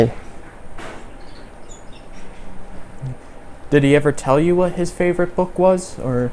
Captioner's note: dishes being moved in background